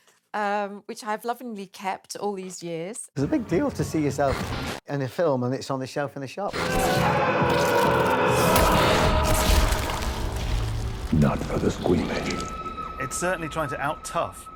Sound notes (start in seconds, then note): 6.5 creepy music; 6.5 eerie moaning; 9.2 liquid splattering